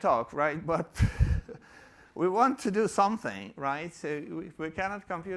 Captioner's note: chuckles